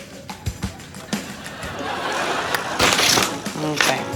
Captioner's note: audience laughing